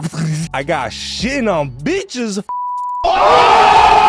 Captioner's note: beep; crowd cheering